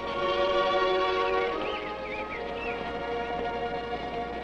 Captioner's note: birds chirping